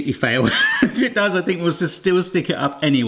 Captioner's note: laughs